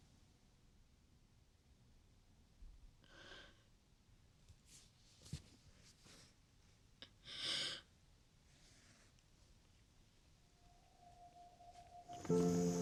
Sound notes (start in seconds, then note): 3.3 Angelina sighs; 10.6 slow music